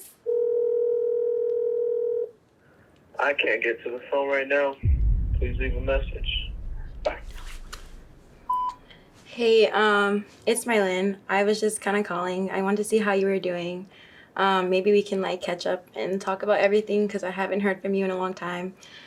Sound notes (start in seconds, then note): 0.2 phone ringing